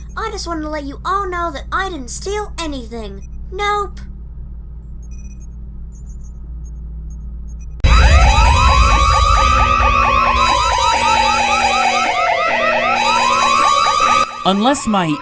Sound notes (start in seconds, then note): 9.9 alarm blaring